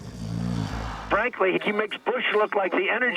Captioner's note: snoring